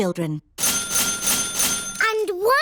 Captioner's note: dinging